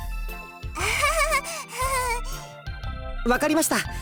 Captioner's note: awkward laugh